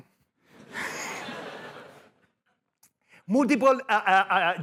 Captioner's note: laughter